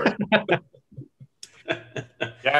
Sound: laughs loudly

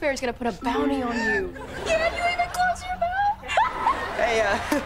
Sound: laughing

